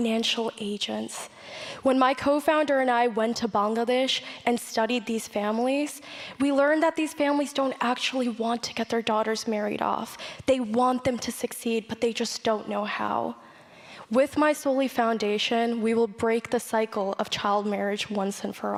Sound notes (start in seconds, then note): none